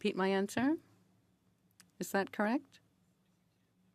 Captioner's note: speaking French